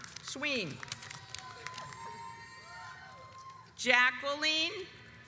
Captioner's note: audience applauds